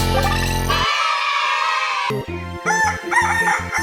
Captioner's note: crowing sound